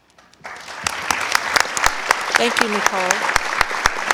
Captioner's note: audience applause